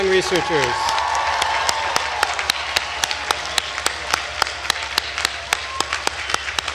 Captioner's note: attendees cheering and applauding